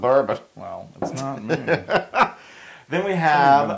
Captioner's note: laugh